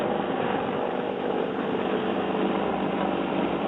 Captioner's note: engine rumbling